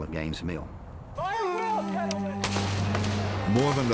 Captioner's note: shouting